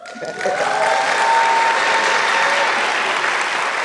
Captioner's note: applause